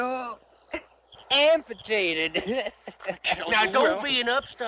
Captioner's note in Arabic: يضحك